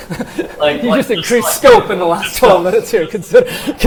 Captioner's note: laughs